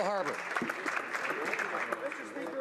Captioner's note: some Applause